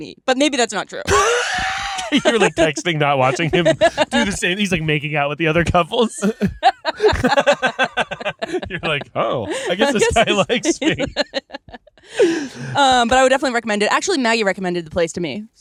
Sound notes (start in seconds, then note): 1.0 laughing